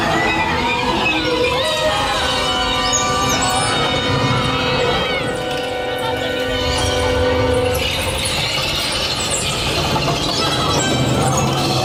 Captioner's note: there is a rat sound in the dark, and the vehicle moves quickly